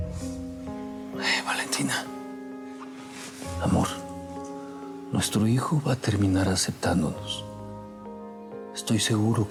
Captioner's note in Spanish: casi susurra